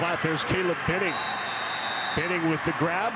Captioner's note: ref blows whistle